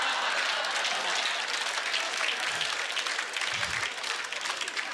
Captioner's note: audience laughter; applause